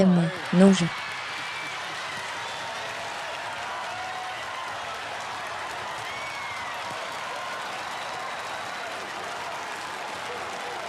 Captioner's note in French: Le public applaudit et applaudit bruyamment